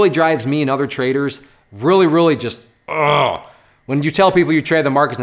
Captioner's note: groans